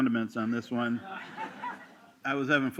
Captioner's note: laughter